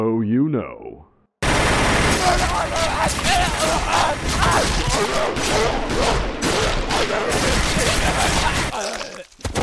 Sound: gunfire

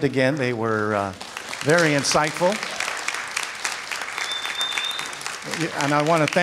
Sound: audience claps

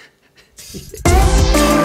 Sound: chuckles; upbeat music

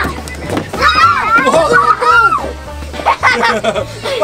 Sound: screams

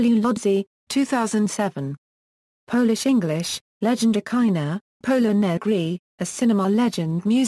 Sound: Polish; Polish

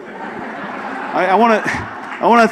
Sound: audience laughs

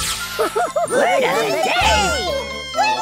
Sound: chatter

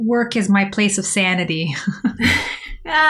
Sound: laughter

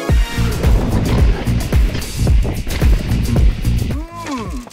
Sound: gravel crunching softly

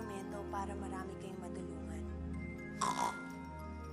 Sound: snorts

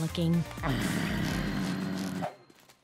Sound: groaning

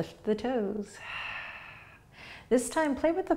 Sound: exhaling

